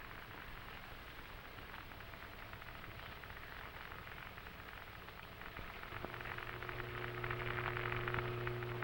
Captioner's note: radio Crackling